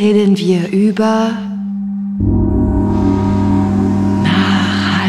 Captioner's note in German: Baam